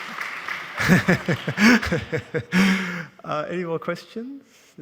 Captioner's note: laughing